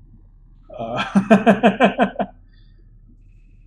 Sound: chuckles

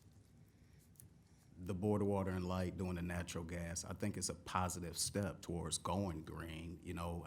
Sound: none

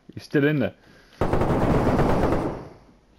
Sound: gun shots

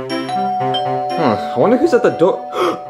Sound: doorbell rings; upbeat music

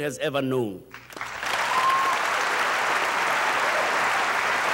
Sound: audience applauding

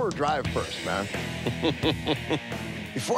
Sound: laughs

